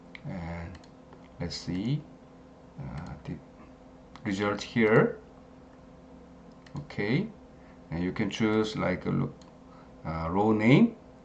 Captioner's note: click